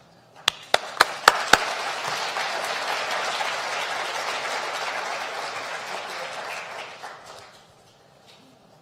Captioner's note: applause